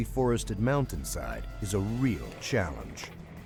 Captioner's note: voiceover